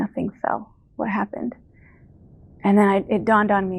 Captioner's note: rumbling sound